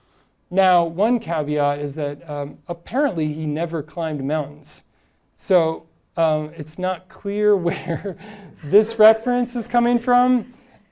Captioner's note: audience laughing